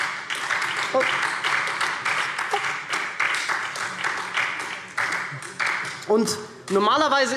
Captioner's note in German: Beifall SPD